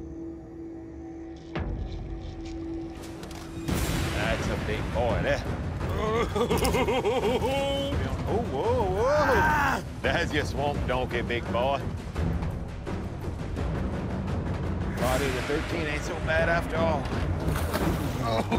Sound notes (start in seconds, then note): 6.8 gasping